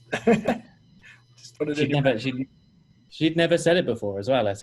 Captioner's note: laughing